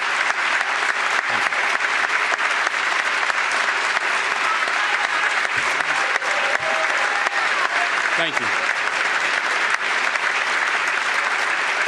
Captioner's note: applause